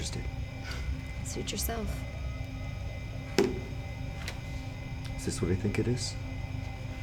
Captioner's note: scoffs